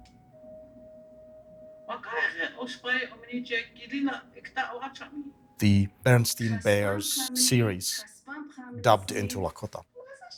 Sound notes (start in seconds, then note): 1.6 speaking in Lakota